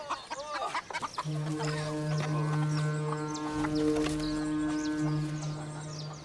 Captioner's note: ship's horn sounds